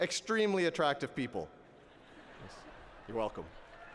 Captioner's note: laughter